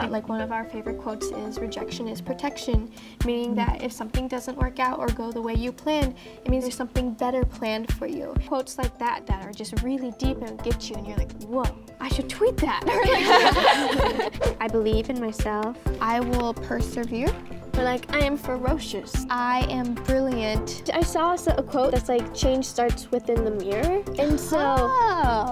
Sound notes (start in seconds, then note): 12.9 everyone laughs